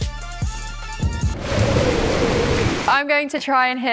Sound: wind whooshing

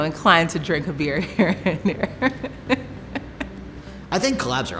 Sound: laughs

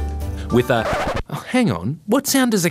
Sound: record scratches, music stops

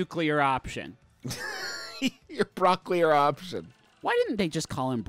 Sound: laughing

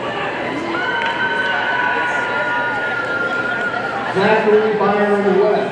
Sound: audience cheering

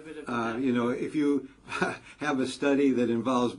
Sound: laugh

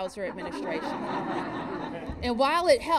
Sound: laughter

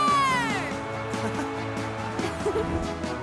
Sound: chuckling

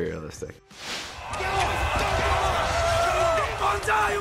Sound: crowd cheers

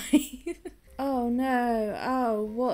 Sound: laughs

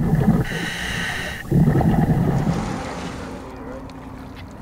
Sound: diver inhaling

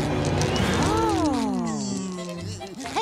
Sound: gasping

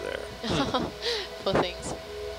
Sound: woman laughs

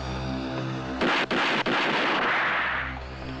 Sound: gun Firing

